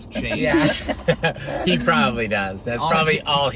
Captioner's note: laughing